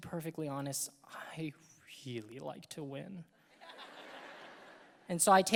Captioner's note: audience laughing